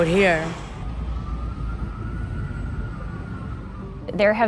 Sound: distant siren ringing

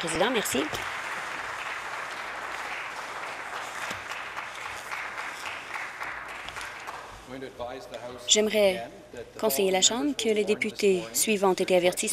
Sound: applause

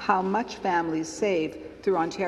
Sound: none

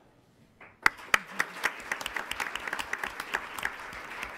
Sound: applause

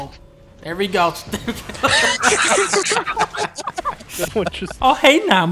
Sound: laughter

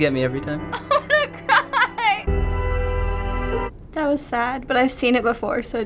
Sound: laughs

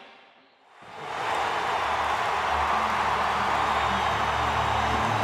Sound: people cheering

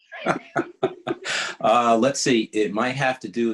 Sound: laughing

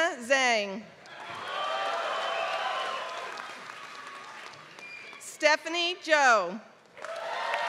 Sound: applause; applause

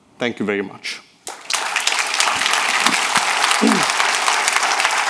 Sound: audience applauding

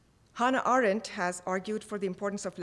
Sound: speaking foreign language

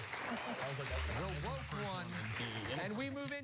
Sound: cheers and applause

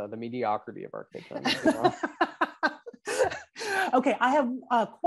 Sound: laughs

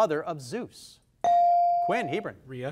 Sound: device dings

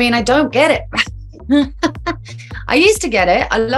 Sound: Kaya laughs

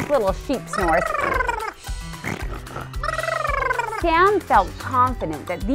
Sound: snores and bleats

